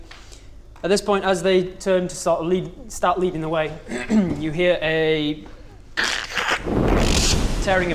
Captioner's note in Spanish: crrkkkshh